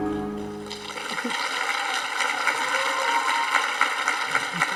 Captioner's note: audience applauding